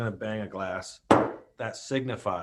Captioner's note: glass thuds